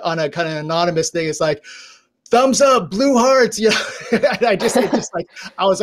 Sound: laughs

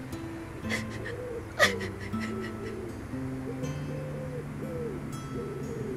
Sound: sobbing

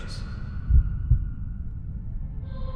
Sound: heart beating

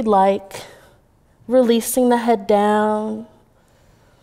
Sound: exhaling

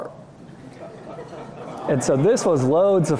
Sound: laughter

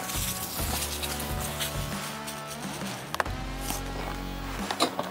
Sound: deer food clattering

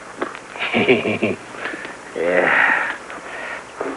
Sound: giggles

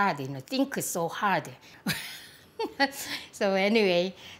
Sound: laughs

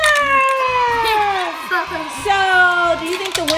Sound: cheering

